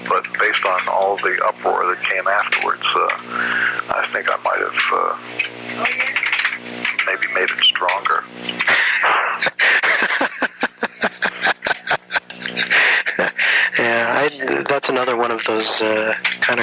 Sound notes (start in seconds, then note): 8.5 laughs